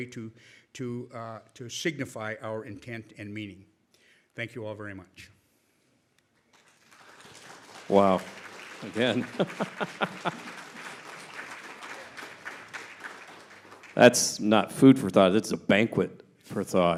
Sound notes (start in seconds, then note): 6.5 applause; 8.8 chuckling